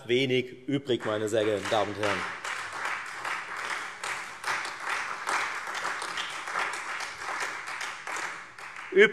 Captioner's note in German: Beifall Freie Demokraten, SPD und vereinzelt AfD